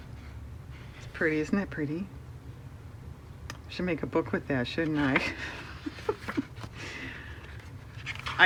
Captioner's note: laughs